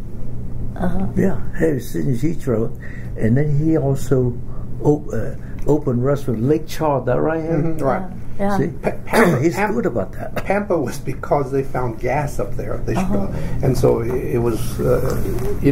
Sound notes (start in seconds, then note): 8.6 coughs